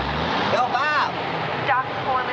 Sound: truck engine roaring; PA speaker

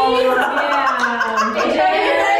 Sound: laughing

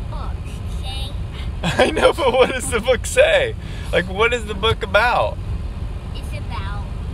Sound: laughing

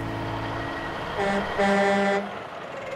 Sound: truck horn

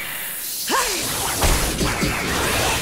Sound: grunting

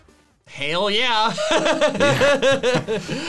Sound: laughs

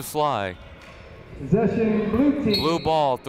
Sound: whistle blowing

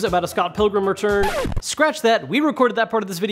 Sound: record skipping

